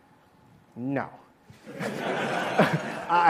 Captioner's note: laughter